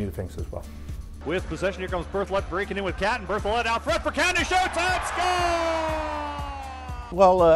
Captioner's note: crowd cheering a goal